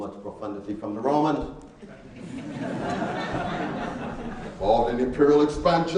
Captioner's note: laughing